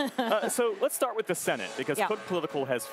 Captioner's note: laughter